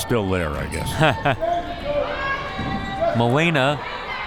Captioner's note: laughs